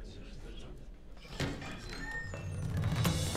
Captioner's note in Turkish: Kapı açılma sesi